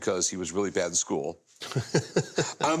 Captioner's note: laughs